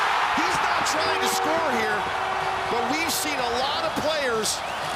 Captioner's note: cheering